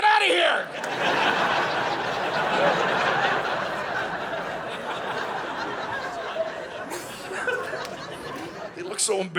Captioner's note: audience laughing